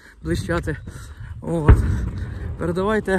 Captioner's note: вибухи